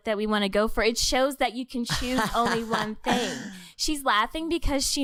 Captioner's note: laughing